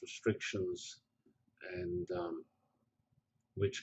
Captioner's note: pause